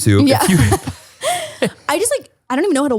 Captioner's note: both laughing